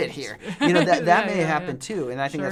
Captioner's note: laughing